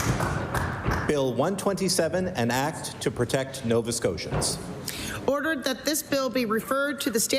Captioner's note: applause